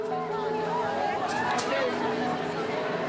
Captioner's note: crowd chattering